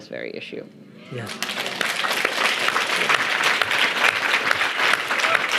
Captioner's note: audience applauding